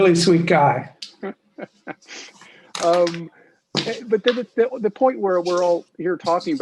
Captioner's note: laughs